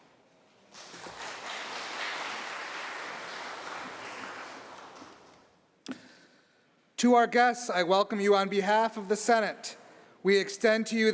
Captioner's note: applause